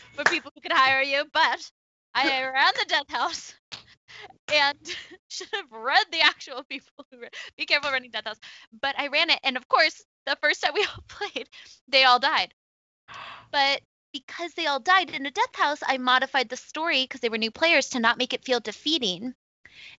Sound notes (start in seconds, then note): 4.7 laughs